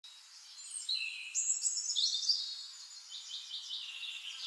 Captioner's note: birds chirping